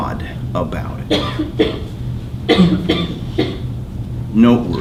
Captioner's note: coughing